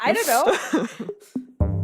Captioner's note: laughs